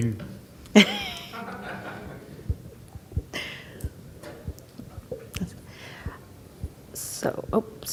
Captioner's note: laughing